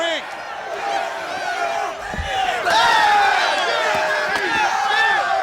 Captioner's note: wrestlers grunting